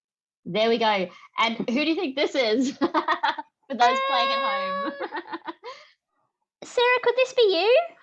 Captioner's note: laughter